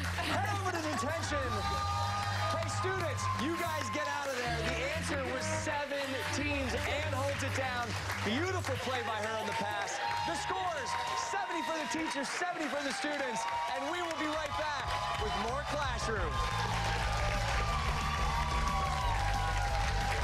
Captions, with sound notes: [ LAUGHTER ] TWO. TWO IS INCORRECT. MRS. HEART RAMP HEAD OVER TO DETENTION. [ CHEERS AND APPLAUSE ] STUDENTS, YOU GUYS GET OUT OF THERE. THE ANSWER WAS SEVEN TEAMS ANN HOLDS IT DOWN. BEAUTIFUL MAY BY HER ON THE PASS. THE SCORE 70 FOR THE TEACHERS. 70 FOR THE STUDENTS AND WE WILL BE RIGHT BACK WITH MORE "CLASSH-ROOM".